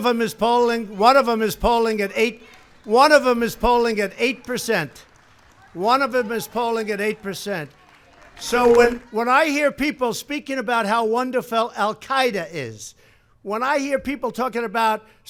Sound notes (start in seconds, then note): 5.3 applause